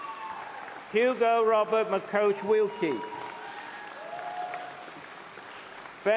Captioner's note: applause